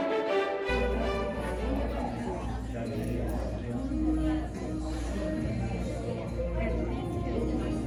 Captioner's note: audience Ambience